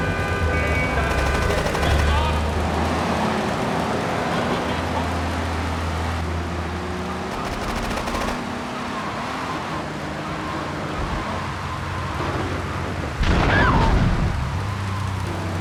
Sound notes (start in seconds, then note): 0.1 yelling; 7.2 gun firing; 8.9 yelling